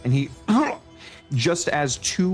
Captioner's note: pained Noises